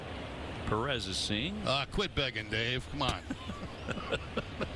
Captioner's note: laughter